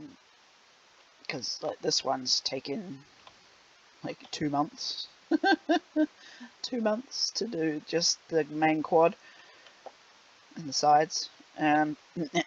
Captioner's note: laughs